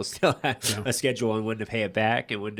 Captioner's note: chuckles